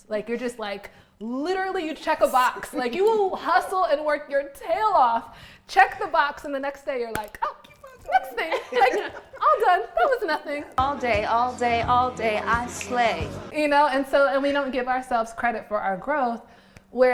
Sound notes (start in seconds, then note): 10.5 laugh